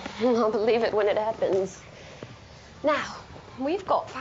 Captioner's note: chuckles